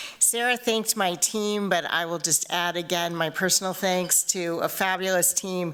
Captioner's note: none